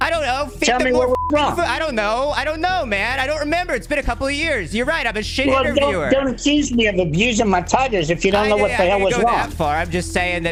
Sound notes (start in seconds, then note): 0.7 beep